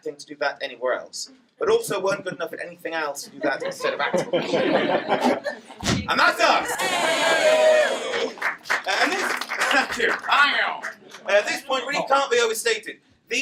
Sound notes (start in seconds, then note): 3.3 laughter; 6.6 cheering and applause